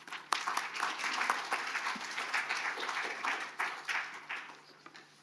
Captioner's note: audience applauding